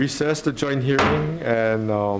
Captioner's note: gabble banging